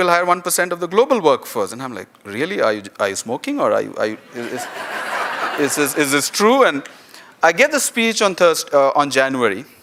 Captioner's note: laughter